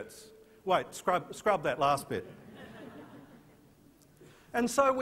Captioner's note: chuckles from audience